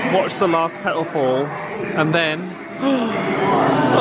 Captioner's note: gasps